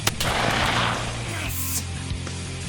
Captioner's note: gunshot cracking; intense rock music